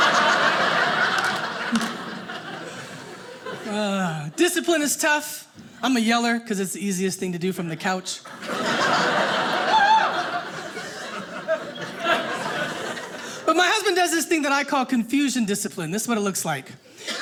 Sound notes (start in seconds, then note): 0.0 audience laughing; 8.2 audience laughing